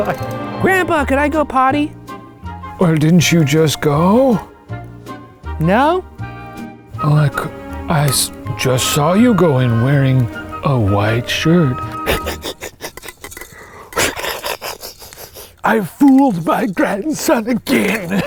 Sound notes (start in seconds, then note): 12.0 chuckling